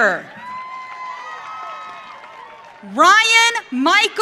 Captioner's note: audience cheering